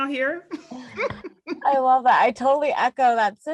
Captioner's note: laugh